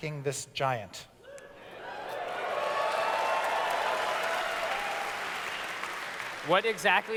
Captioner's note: audience cheers